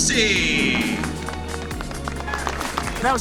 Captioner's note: crowd applauding